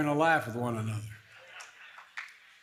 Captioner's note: laughter